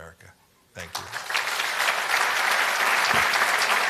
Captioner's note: applause